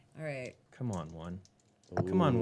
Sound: dice shaking

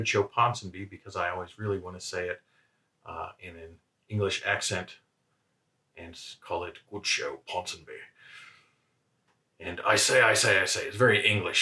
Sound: accented

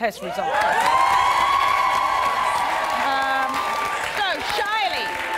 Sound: audience applauding

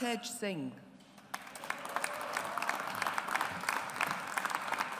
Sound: audience applauds

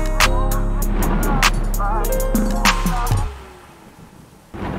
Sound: thunder banging

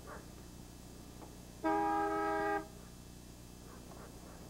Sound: honking

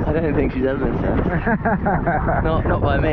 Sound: laughs

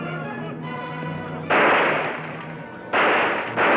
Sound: gun shots

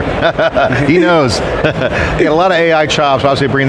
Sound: laughs

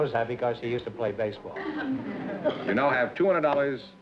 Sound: laughter

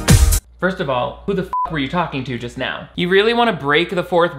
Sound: bright music; beep

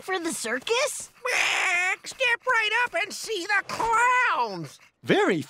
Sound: squawking

